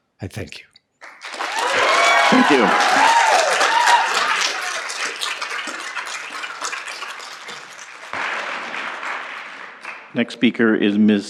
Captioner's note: cheering and Applause